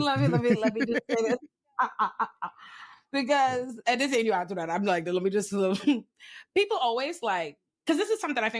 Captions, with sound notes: Love you, love you, love you. (laughs) Because, and this ain't you after that. I'm like, let me just, people always like, cause this is something I